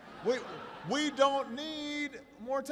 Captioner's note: laughter